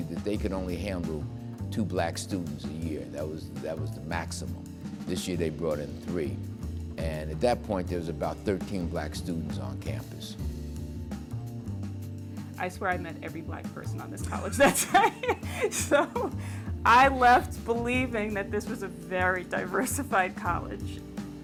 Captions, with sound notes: that they could only handle two black students a year, that was the maximum. This year they brought in three. And at that point there was about 13 black students on campus. - I swear I met every black person on this college (laughs) So, I left believing that this was a very diversified college.